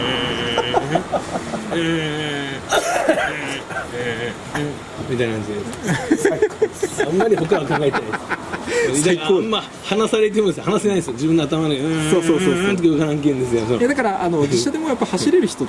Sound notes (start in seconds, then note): 5.7 laugh